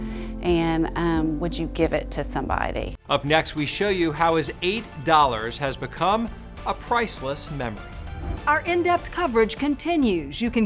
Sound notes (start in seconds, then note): 4.4 exciting music; 7.7 graphics whooshing